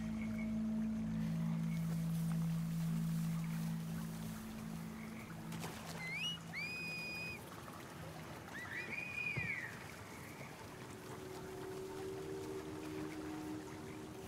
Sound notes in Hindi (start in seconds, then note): 5.9 फिर सीटियों की आवाज़